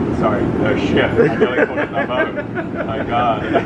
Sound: laughs

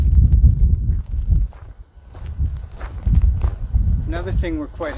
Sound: footsteps squeaking

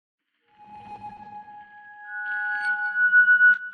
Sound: logo whooshing

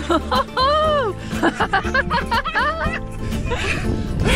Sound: everyone laughing

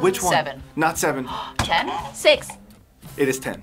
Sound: gasps

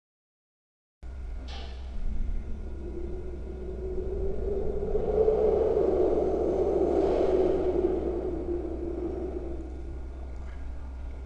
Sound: sound of scary wind

